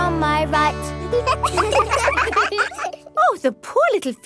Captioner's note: children laugh